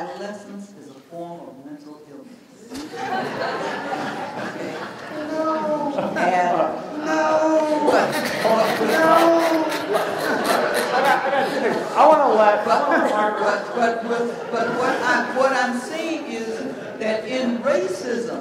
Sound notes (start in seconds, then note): 2.7 laughter; 6.9 moaning; 7.9 laughter